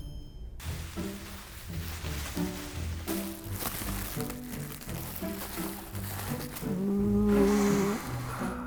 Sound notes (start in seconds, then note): 0.6 bubble wrap crackling